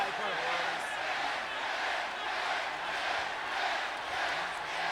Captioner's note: crowd chants "Yes"